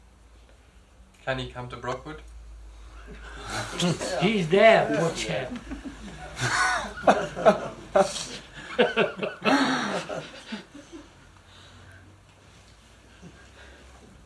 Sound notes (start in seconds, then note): 5.4 laughter; 6.7 laughs